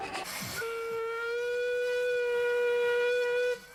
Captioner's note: honking